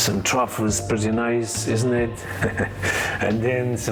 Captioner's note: laughs